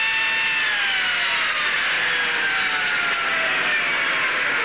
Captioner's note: wailing Stops